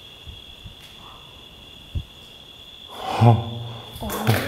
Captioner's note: gasp